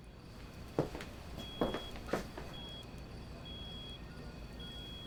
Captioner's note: feet shuffling